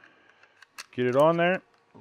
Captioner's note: slide clicks